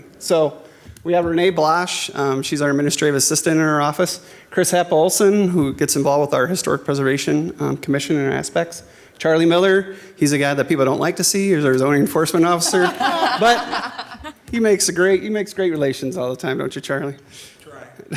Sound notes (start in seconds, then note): 12.3 all laughing